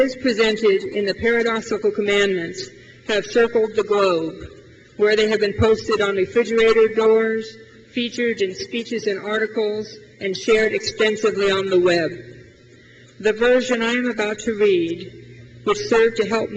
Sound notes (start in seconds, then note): none